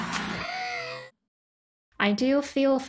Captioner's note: evil laughter; gasp